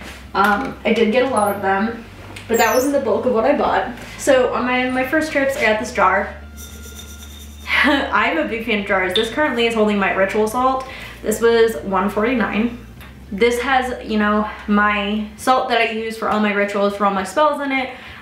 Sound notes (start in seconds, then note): 6.7 chuckle